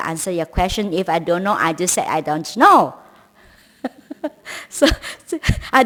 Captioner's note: laughs